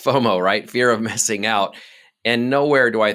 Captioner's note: laughing